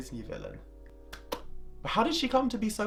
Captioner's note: claps